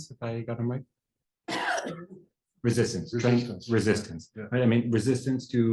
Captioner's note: cough